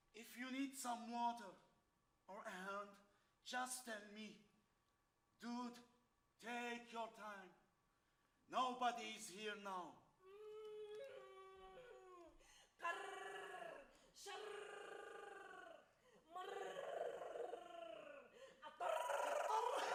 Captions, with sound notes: If you need some water, or help, just tell me. Dude, take your time. Nobody's here now. [woman yells]